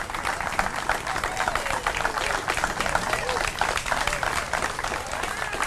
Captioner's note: applause; more applause